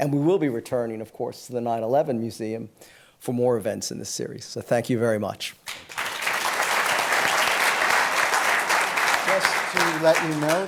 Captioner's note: applause